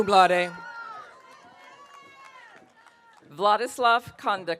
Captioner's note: audience cheering